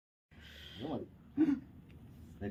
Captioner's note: in a frightening voice